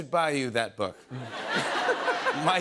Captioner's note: laughter